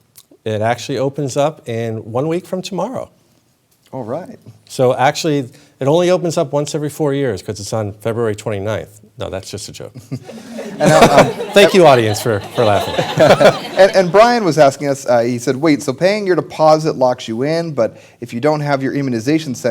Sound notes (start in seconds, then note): 10.0 laughter